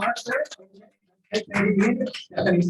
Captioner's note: applause